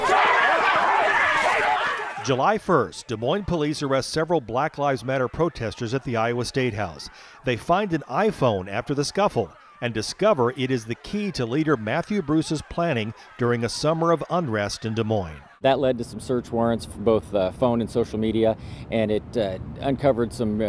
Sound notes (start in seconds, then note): 6.8 yelling